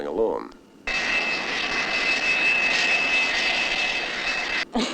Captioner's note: airplane engine whooshing; laughing